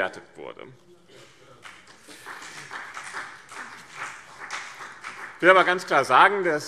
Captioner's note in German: Beifall BÜNDNIS 90/DIE GRÜNEN und vereinzelt CDU